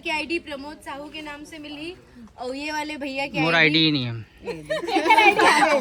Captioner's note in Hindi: हंसी